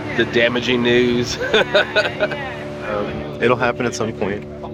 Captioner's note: laughter